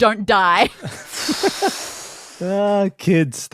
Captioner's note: giggles